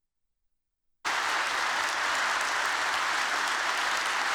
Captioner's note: applause